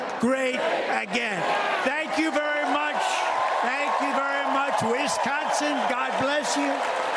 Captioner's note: cheers and applause